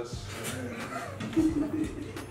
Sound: laughs

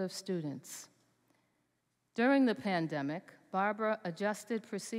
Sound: none

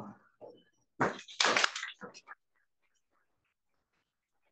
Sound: students applaud

